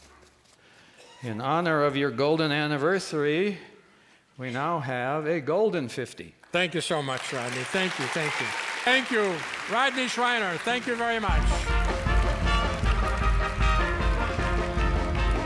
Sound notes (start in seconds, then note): 8.9 audience claps